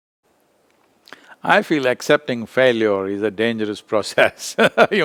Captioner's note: laughs